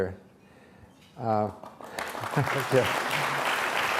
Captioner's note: applause